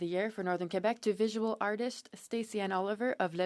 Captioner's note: speaking French